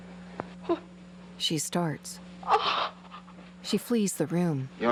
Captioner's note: sobbing